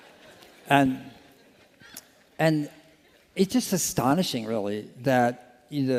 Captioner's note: laughter